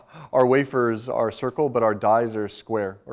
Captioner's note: laughs